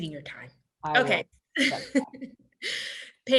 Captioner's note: laughs